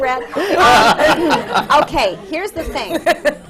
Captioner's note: laughter